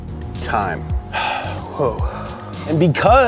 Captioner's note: sigh